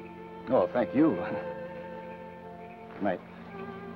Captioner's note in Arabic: يضحك